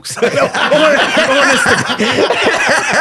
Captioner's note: all laughing